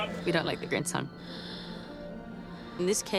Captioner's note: wheezing